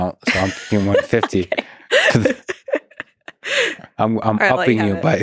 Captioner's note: laughing